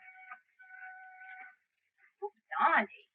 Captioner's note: train whistle blowing